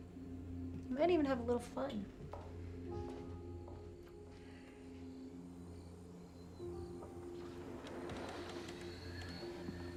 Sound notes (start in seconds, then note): 2.6 crickets chirping; 2.6 gentle music